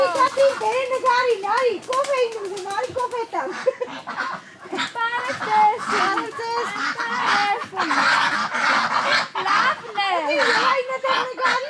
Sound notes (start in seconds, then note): 0.2 speaking Armenian; 5.6 in Armenian; 7.8 ducks quacking; 10.6 in Armenian